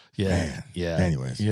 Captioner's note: laughing